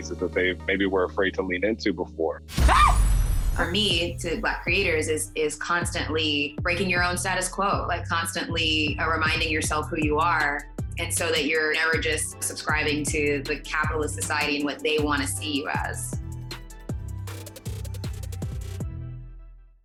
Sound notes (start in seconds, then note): 2.5 explosion; 2.6 screams; 16.7 upbeat music